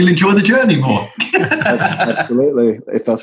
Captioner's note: laughter